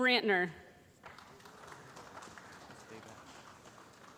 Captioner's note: applause